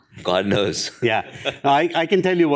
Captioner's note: laughs